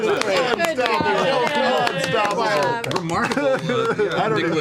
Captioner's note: cheering